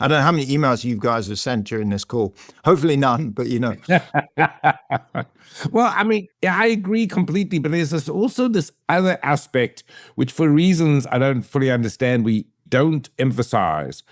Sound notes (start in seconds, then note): 3.7 laughing